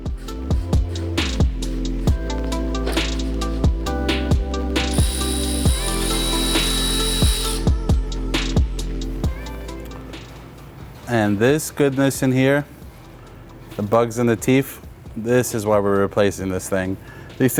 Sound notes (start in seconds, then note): 0.1 soft upbeat music; 4.8 tool whirring; 7.9 soft upbeat music